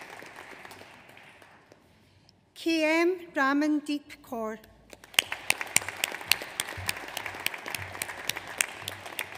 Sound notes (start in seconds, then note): 5.0 audience applauds